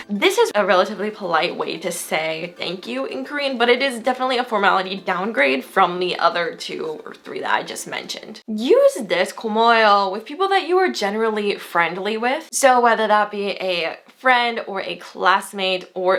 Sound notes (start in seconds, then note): 9.0 foreign language